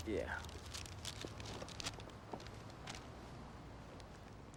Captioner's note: paper rustling